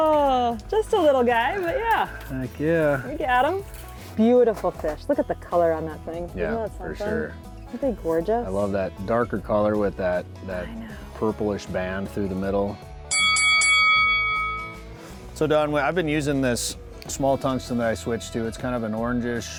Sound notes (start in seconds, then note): 13.1 bell dings